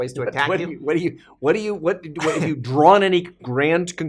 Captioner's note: chuckling